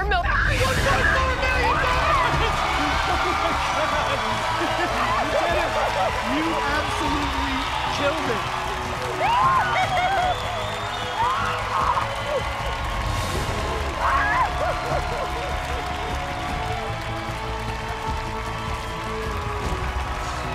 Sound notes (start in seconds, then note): 9.1 screaming; 10.8 cheering